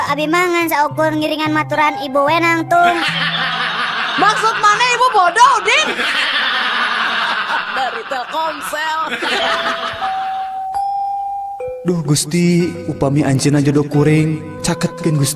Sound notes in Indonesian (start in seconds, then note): 3.7 tertawa; 10.2 tertawa